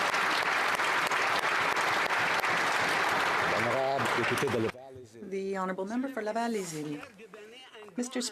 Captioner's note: applause